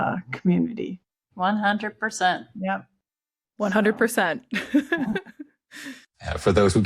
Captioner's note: laughs